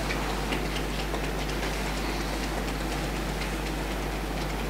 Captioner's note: fingers tapping